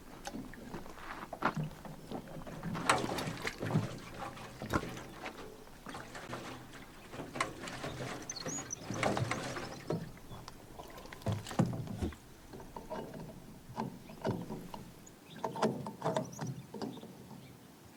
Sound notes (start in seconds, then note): 3.0 gas trickling; 13.0 cap scraping